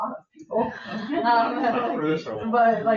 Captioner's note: people chuckle